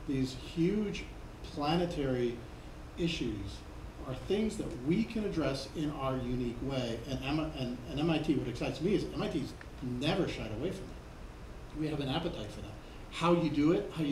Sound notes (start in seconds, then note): none